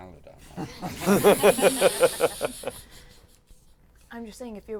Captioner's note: laughter